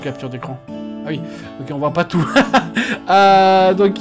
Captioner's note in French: rires